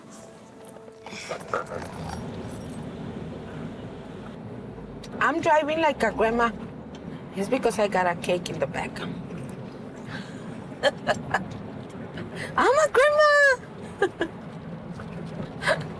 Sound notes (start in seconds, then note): 2.5 car running; 10.8 laughs